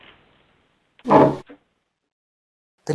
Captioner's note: thump